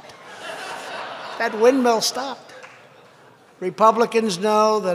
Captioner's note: laughter